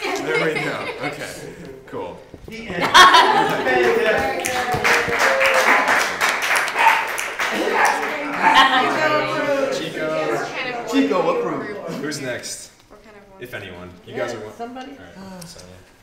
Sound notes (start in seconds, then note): 3.5 applause